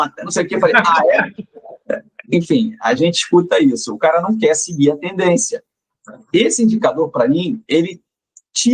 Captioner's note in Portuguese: risadas